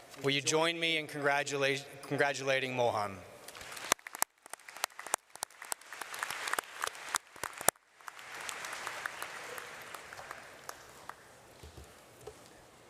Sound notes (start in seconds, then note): 3.5 audience applauds